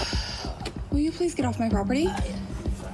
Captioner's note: sighs